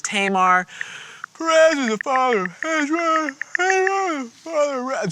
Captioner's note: mumbling and yawning